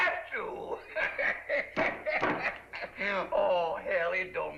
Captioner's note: laughing